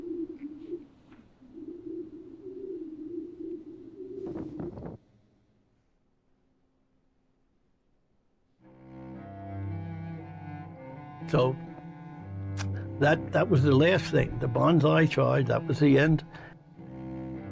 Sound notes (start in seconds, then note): 9.0 somber music; 12.6 clicks tongue